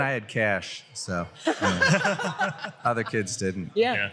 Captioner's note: laughter